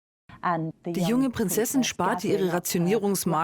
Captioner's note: voiceover